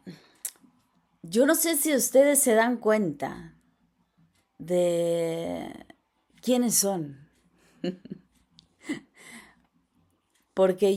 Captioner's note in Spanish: risas